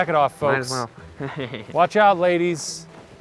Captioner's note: laughs